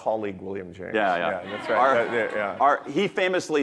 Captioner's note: audience laughing